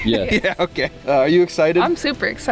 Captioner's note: laughing